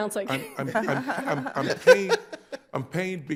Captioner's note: laughing